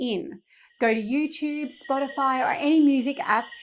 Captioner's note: insects chirping